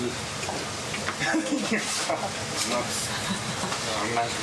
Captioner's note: laughing